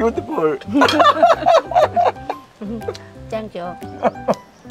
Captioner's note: both laughing